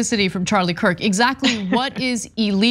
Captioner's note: laugh